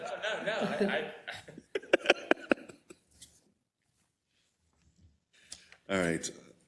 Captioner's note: laugh